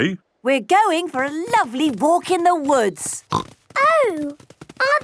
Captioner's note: snorting